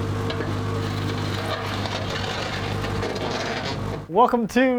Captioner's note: wood scrapping